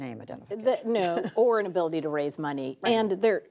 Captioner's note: laughter